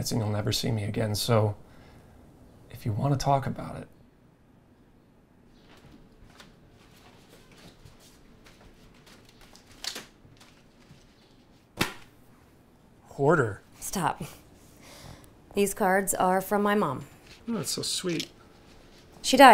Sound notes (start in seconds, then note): 9.8 elastic band snaps; 11.6 thuds